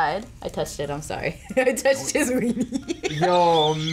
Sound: laughs

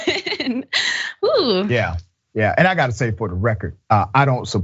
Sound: laugh

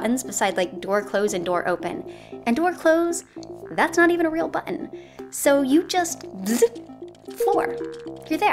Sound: zooop

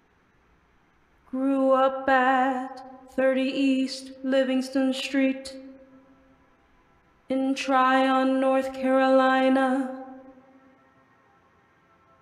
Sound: hums

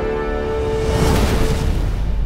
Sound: woosh

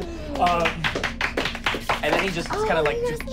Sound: clapping

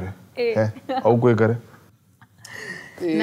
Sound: laughs

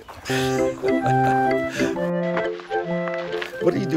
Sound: laughing

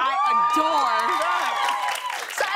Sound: cheers and applause

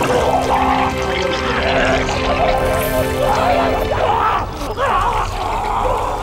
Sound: vomiting sounds; screaming

